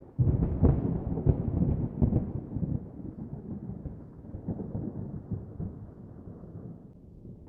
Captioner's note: thunder